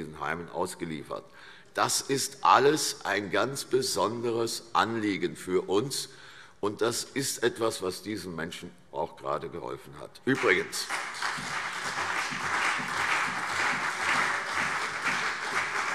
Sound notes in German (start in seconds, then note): 10.3 Beifall CDU und BÜNDNIS 90/DIE GRÜNEN